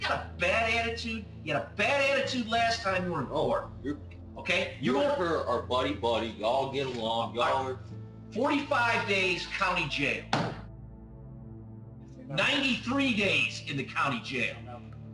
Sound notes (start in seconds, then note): 10.3 gavel thuds